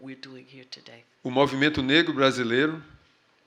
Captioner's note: speaking portuguese